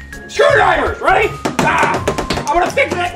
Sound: screwdrivers banging

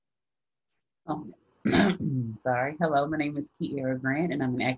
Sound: coughs

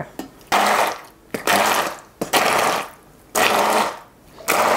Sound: blender buzzing

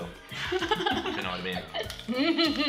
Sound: laughter

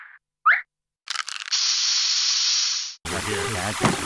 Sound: aerosol hissing

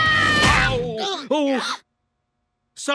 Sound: screaming; groaning

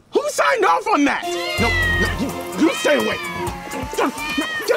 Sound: yowling

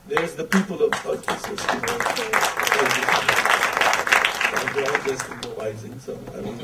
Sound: audience applause

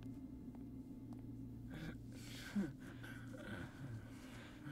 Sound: Gabriel groans

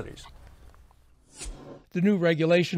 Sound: air whooshing

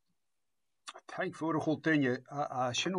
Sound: speaking in Scottish Gaelic: "Thanks, everybody."

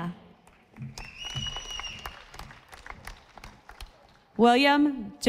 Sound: audience applauding

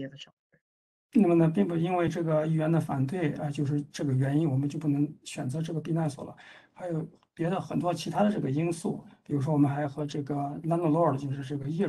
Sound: speaks in Mandarin

